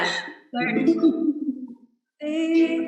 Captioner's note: laughs